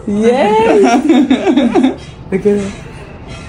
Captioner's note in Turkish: kahkaha